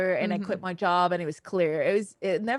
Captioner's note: none